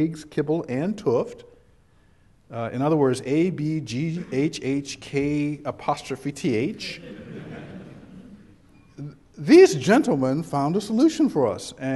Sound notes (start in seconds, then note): 6.8 background chuckles